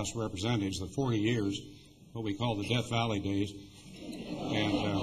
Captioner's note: laughter